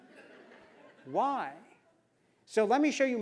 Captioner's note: laugh